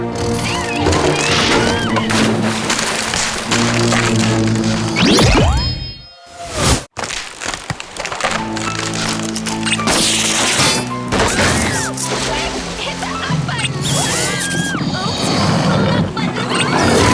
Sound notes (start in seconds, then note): 0.0 alligators snarling; 2.9 scream; 8.6 wood cracking; 13.8 screaming